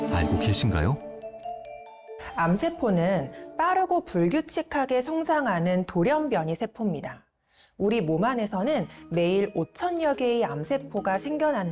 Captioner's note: voiceover